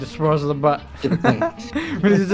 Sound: laughing

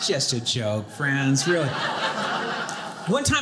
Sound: audience laughing

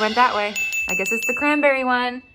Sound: bell dings

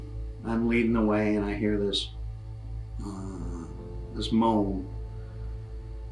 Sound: moans

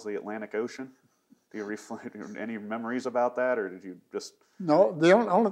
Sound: laughs

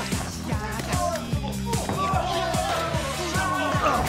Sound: yelling

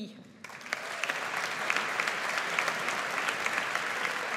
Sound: audience applauds

